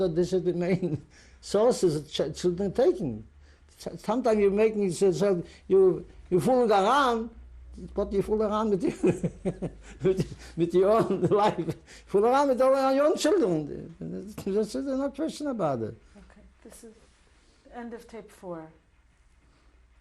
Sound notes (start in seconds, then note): 8.8 laughs